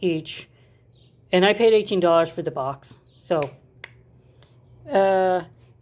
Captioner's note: happy snapping